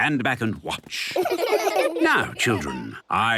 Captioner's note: laughter